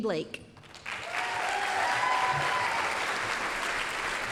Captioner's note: applause, cheering